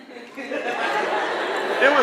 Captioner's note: laughter